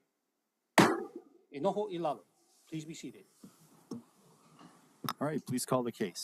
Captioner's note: gavel bangs once